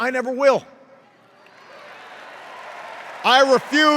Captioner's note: cheers